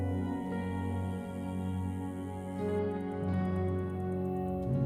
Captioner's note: somber music; insects chirping